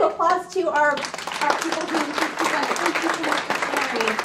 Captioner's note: applauding